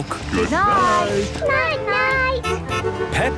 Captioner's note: honking